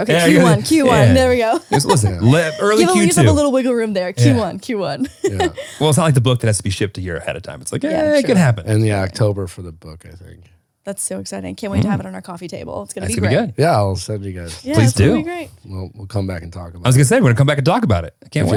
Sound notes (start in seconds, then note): 4.8 laughing